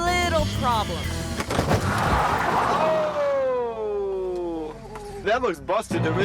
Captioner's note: tire screeches